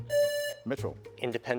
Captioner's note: presses buzzer